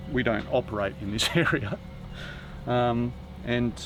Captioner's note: laughs